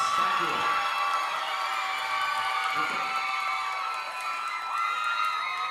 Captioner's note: audience cheering and applauding